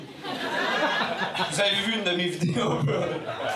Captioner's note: laughs